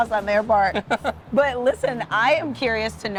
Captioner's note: chuckles